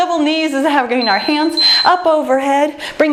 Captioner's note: timer beeps